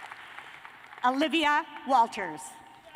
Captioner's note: cheers and applause